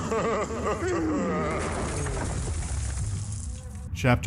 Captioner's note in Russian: хрясь